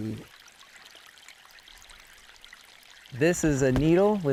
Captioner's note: water trickles